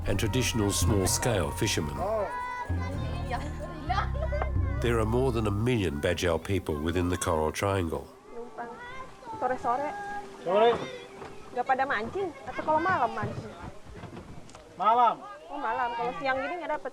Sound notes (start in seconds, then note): 2.0 all speaking Austronesian language; 10.4 man in Austronesian language; 11.5 indistinct chattering